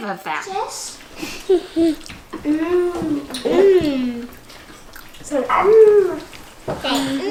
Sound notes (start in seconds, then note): 1.0 chuckling